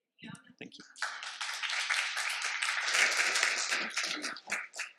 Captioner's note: applause